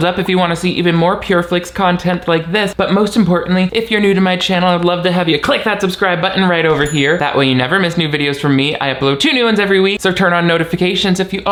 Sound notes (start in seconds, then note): 6.7 animation dings